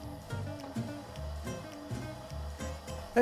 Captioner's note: machine whirs